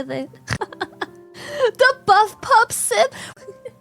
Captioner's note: laughs; laughs